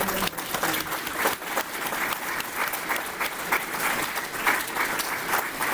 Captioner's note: applause